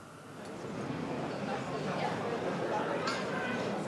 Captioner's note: babble of voices